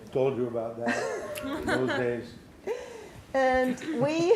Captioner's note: laughs